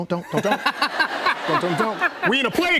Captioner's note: laughter